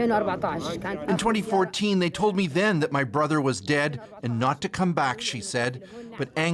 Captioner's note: speaking alternate language